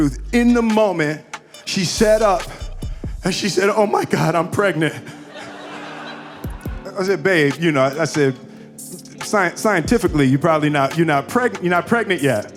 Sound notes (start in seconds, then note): 4.7 audience laughing